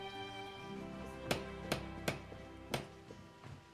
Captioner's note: knock On Door